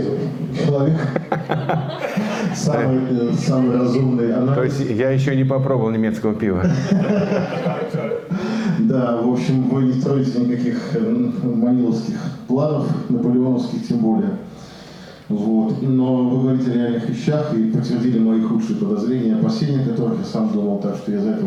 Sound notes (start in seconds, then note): 7.4 laughter